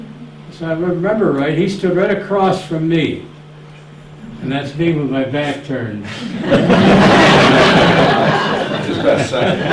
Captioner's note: laughter